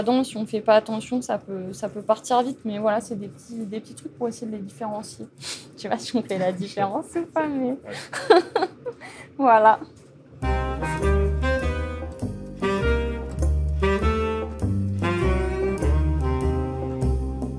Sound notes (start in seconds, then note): 7.9 laughs; 10.5 joyful music